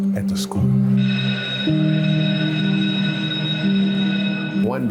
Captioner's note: school bell rings